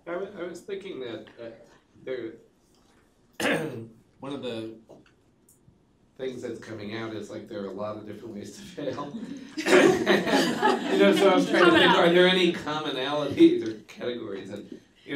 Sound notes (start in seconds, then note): 10.6 laughter